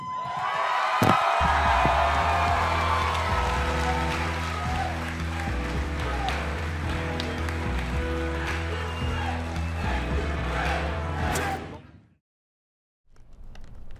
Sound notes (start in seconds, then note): 1.5 crowd cheering